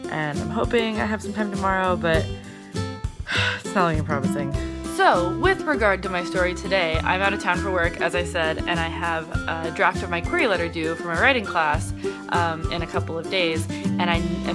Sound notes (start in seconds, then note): none